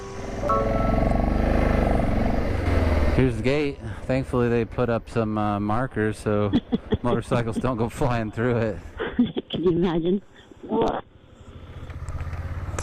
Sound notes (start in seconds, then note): 9.0 laughing